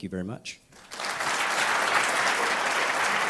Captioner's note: applause